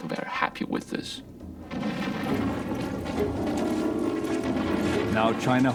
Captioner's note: explosion blasting